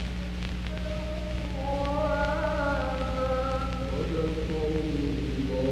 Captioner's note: chanting in foreign language